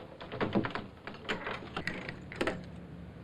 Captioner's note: door creaking